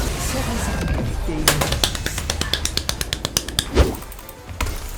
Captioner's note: seal clap